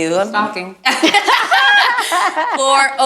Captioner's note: group laughs